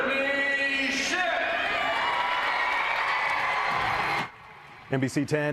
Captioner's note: crowd cheering